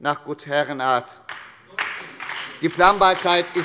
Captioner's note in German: Beifall bei der SPD